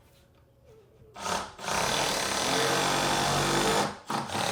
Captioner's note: drill drilling